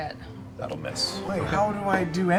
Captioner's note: mutters